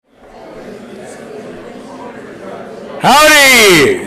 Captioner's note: audience chattering